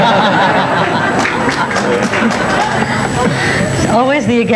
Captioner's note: everyone laughs